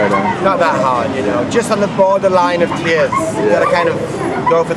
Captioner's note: laughing